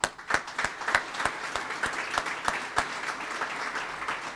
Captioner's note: audience applauds